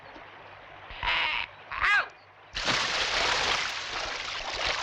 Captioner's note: water splashing